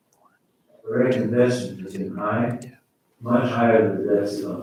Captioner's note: faintly speaking